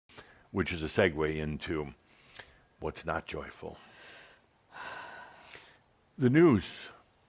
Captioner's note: sighs